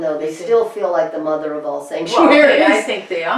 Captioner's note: laughs